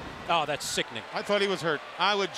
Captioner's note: crowd chatter